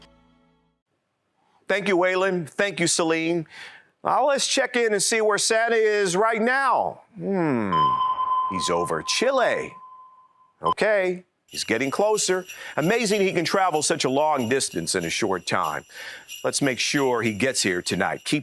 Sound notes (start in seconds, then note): 7.7 ding